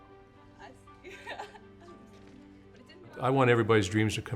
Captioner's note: laughing